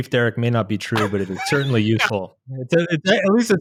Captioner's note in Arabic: يضحك